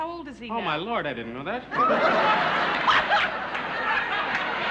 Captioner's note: laughter